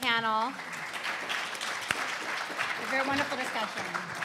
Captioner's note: audience applauding